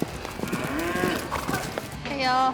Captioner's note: cow moos